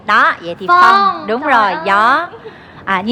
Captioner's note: wind